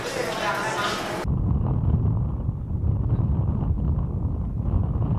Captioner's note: speaking in foreign language; wind whooshing